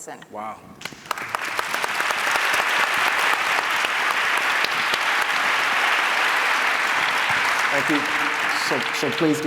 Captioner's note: applause